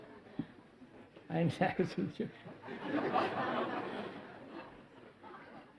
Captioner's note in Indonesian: tertawa